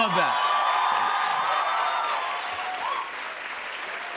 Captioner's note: cheers and applause